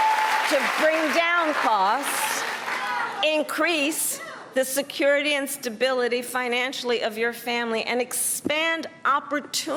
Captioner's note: cheers and applause